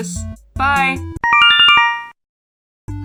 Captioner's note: Yume Nikki instructions sound